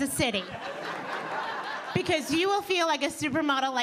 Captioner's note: audience laughing